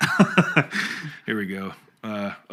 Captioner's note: laughs